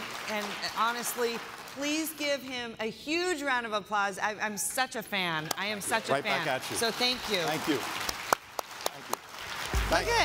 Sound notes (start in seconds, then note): 0.0 applause; 8.7 applause